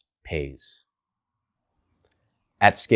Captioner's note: beat